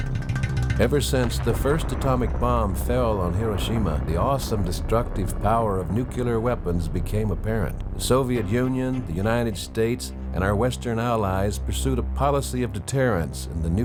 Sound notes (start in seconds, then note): 6.0 bomb exploding